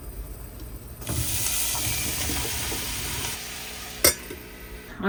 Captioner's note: vegetables sizzling